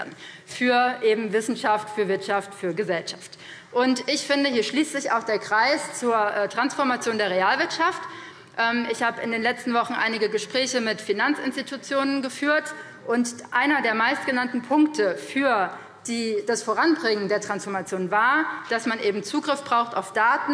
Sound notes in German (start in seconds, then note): none